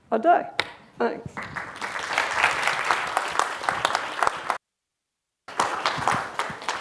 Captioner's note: applause